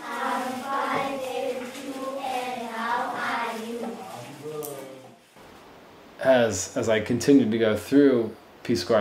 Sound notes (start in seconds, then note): 3.2 class reciting